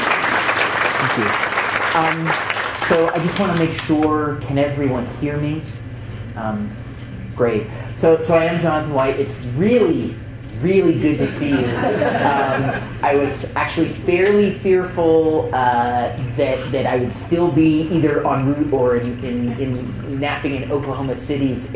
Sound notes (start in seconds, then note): 11.2 chuckles